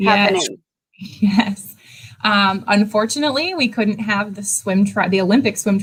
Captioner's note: laughs